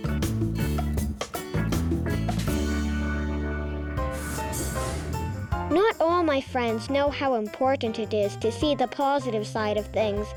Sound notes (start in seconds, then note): 3.9 whooshing sound; 4.4 piano music